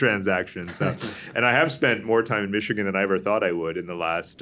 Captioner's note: laughter